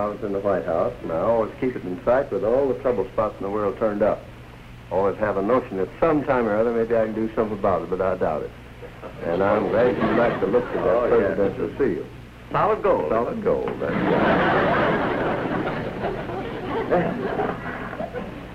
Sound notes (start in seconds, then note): 13.8 laughter